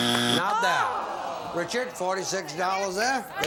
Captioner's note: buzzer